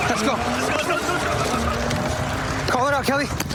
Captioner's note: shouting